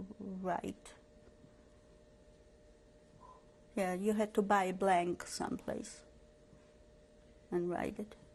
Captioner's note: pauses for 3 seconds